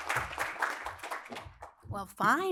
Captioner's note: applause